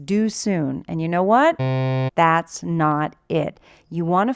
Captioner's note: buzzer sound